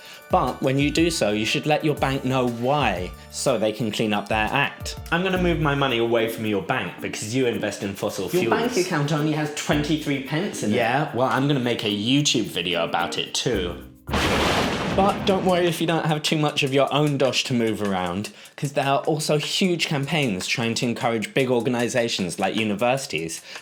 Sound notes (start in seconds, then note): 14.1 boom